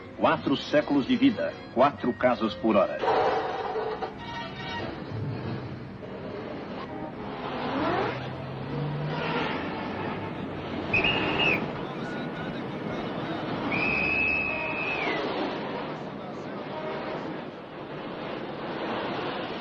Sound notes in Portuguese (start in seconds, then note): 3.4 Motor de carros; 10.9 Apito; 13.6 Apito